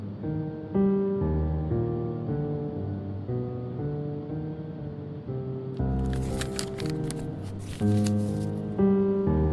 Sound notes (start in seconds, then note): 5.9 paper being folded and set down